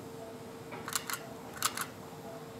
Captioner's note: click